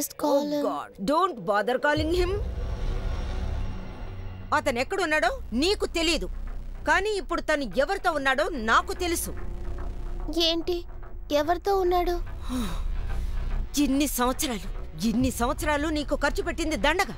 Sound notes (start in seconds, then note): 12.4 sighs